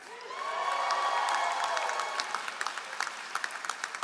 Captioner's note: all applauding